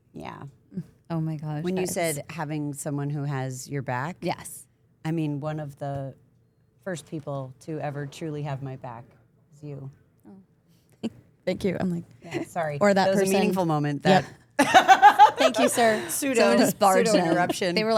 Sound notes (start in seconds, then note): 10.5 chuckles; 14.6 laughs